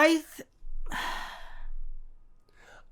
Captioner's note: sigh